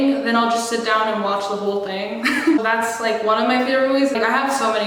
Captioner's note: laughs